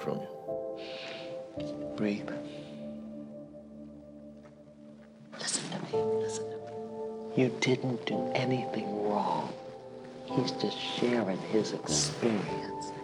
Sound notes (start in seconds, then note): 0.0 exhales sharply; 4.7 whispering